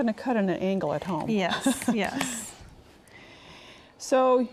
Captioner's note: laughs